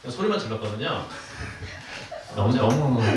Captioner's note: laughs